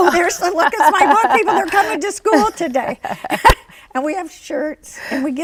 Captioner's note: laughs